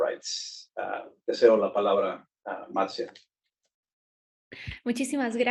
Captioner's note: speaking Spanish